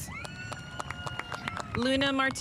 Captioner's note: spectators applauding